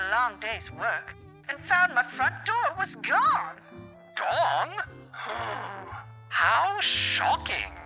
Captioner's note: fake gasp